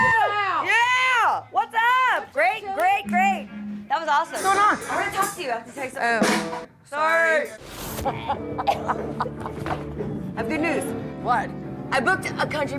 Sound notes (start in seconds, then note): 8.0 laughing